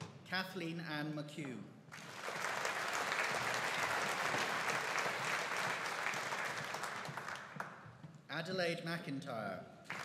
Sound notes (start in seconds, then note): 1.9 audience applauding